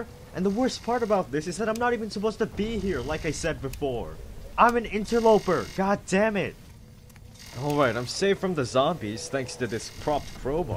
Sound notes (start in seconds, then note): 7.5 zombies groaning